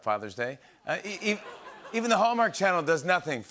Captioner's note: laughter